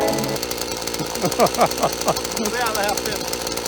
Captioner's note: laughs